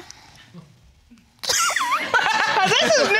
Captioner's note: all laughing